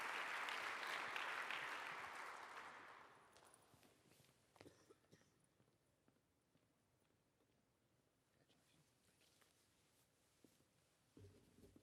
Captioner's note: applause